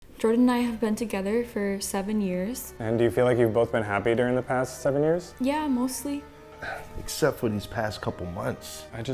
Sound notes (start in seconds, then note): 6.6 sighing